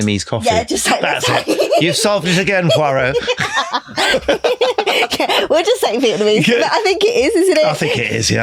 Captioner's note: laughing